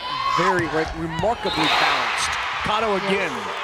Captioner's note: crowd cheering